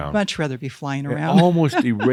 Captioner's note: she chuckles